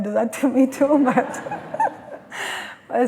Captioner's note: laughter